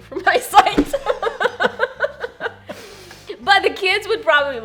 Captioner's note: both laugh